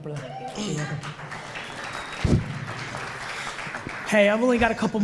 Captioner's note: audience applauds